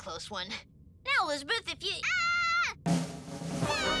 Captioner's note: Max screams